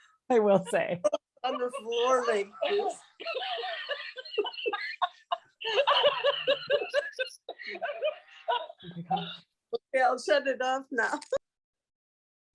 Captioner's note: stuffed toy monkey laughs